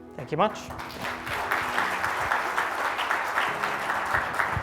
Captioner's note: applause; soothing music